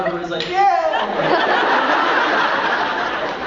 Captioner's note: crowd laughs